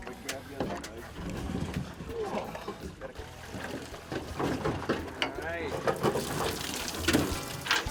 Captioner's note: background conversation